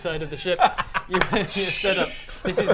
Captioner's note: tssssssch